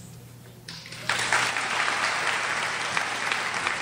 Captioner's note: crowd applauds